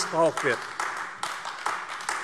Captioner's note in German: Beifall AfD